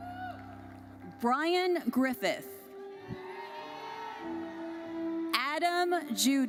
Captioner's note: audience cheers